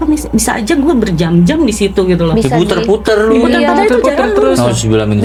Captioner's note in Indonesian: tertawa